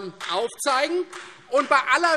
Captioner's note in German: Vereinzelter Beifall Freie Demokraten